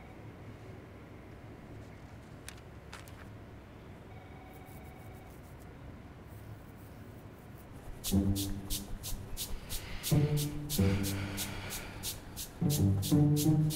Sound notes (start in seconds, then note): 4.2 scratching